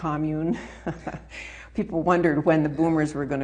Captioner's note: laughing